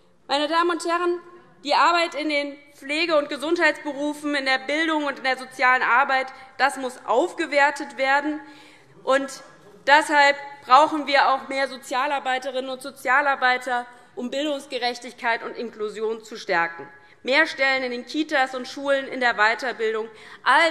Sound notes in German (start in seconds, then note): none